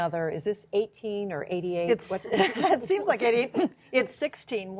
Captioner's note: laughter